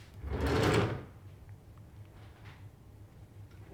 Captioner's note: drawer opens